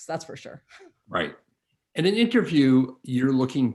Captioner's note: chuckles